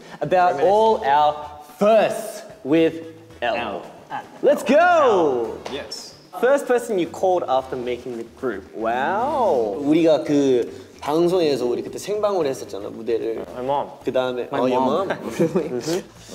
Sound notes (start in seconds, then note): 10.3 speaking in Korean